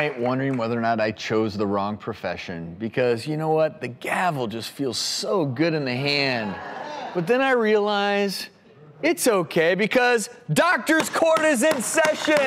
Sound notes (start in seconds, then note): 6.4 audience laughing